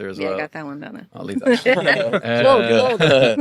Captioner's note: group laughing